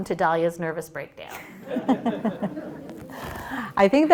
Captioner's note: laughter